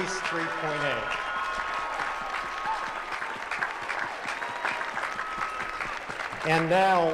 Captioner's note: applause